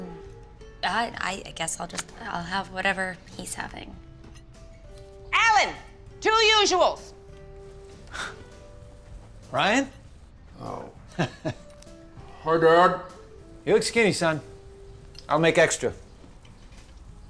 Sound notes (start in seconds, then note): 7.9 chuckles; 10.8 laughs